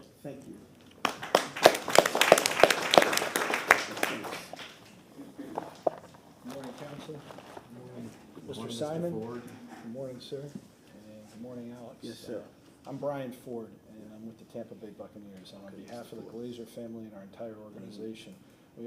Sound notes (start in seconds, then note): 3.7 applause